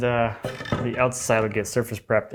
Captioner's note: wood on desk scraping